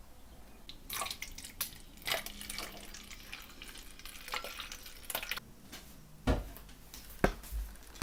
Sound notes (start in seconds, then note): 0.9 noise of flowing liquid